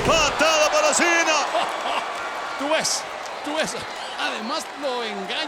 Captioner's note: laugh